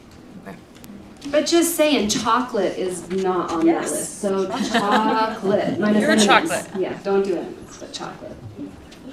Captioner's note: laughter